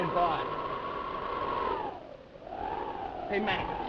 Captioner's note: wind howling